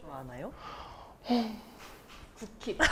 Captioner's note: a loaded sigh